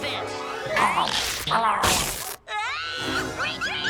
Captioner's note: dogs growling; fabric ripping